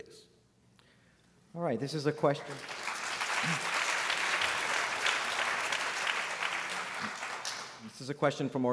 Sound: applause

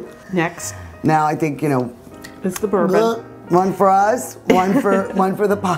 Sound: gulps; laughs

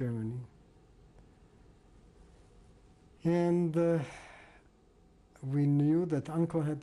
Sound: pauses for 3 seconds

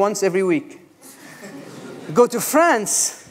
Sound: laughter

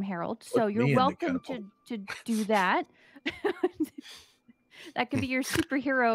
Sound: laughs

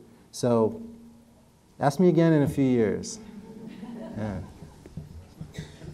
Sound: audience laughter

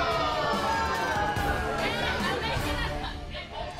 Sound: crowd booing

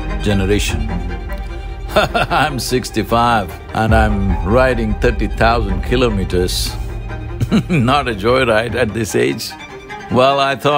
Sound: laughs

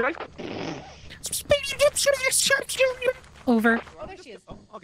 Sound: more fucked-up inkling sounds

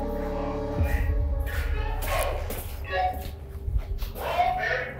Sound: talking over walkie talkie

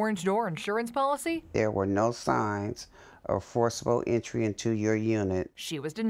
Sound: reading letter

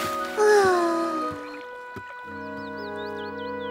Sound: sighs

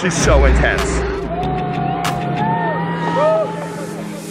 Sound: spectators screaming

